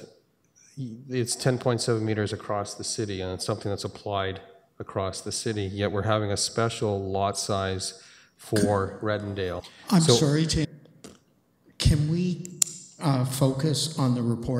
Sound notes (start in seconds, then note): none